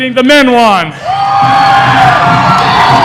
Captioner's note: louder cheering